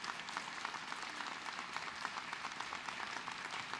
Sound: applause

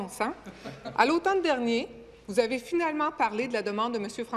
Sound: speaking in French

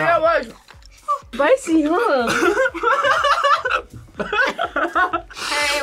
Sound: laughs

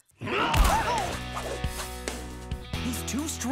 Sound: roaring

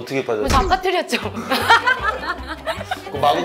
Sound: hahaha

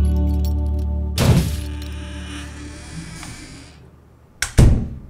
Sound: door crunches and creaks

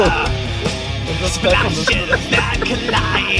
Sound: laughing

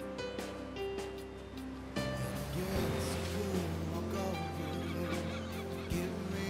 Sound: waves crashing

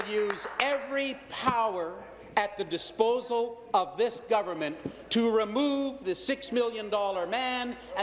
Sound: applause

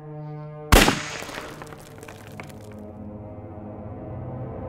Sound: gun bangs

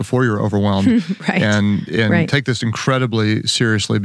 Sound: laughs

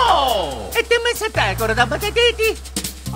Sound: more italian gibberish

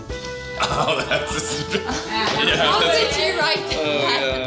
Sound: laughter

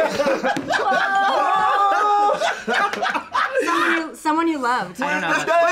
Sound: everyone laughing

